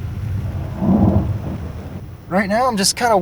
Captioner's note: thunder